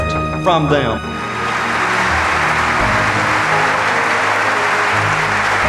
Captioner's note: audience applauding